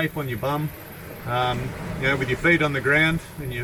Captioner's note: waves gushing